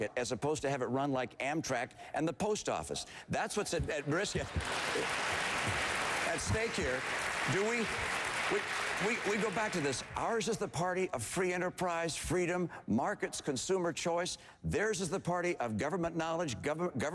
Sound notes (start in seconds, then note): 4.7 applause